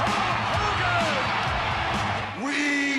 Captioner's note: audience cheering